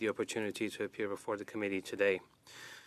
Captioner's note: speaking French